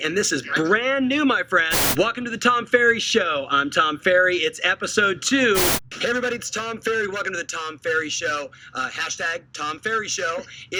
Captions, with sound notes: and this is brand new my friend (static) Welcome to the Tom Ferry Show, I'm Tom Ferry, it's episode two... (static) Hey everybody, it's Tom Ferry, welcome to the Tom Ferry Show, hashtag Tom Ferry Show.